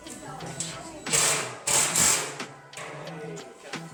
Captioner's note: drilling